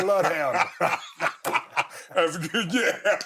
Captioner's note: both laughing